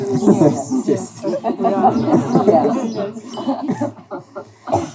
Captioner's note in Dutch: gelach